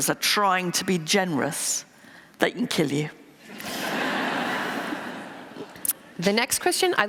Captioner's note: laughter